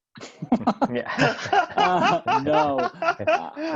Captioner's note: everyone laughing